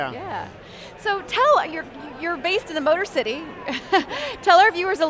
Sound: laughs

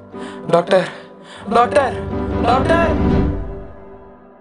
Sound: tamil Shouts

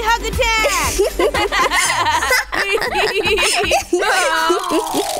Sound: laughs

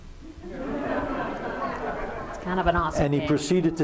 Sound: laughter

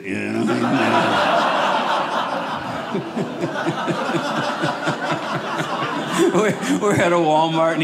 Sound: audience laughing

